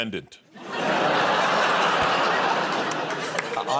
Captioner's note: laughter